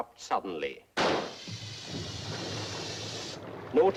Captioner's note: pops; air blowing; water boiling